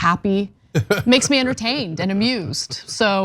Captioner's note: laugh